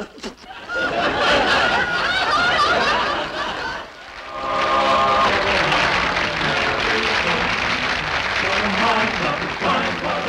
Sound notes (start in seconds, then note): 1.0 audience laughing; 4.4 audience clapping